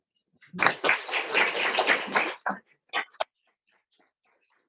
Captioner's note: audience applauds